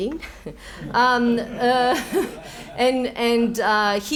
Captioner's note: laughs